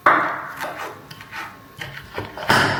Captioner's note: Chop chop chop